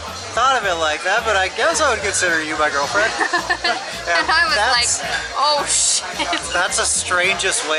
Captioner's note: laughs